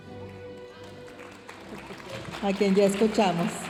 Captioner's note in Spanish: aplausos de la audiencia